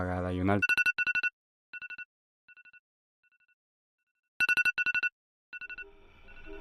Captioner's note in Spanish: alarma